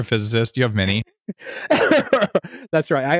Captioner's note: laughing